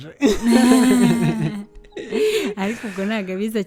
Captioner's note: laughs